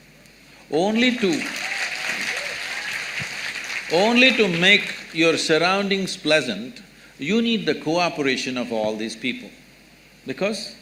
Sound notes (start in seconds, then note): 1.0 applause